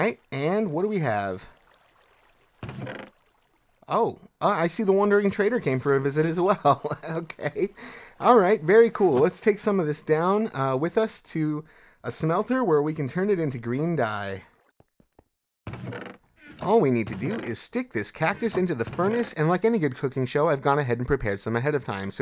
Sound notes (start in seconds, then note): 6.4 laughs